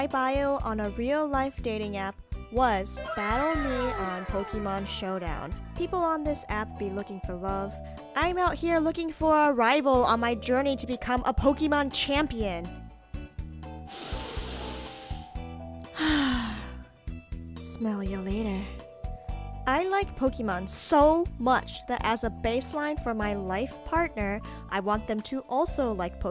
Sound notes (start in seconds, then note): 13.8 inhale deeply + whisper “smell ya later”